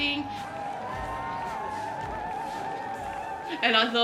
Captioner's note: crowd cheering